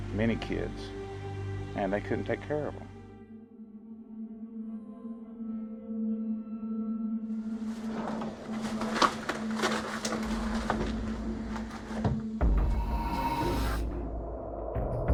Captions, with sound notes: and they couldn't take care of them. (haunting music) (door scratching) (intense music)